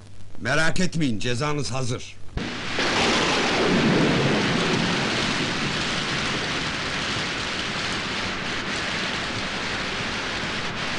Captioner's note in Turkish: şi̇msek ve yağmur sesi̇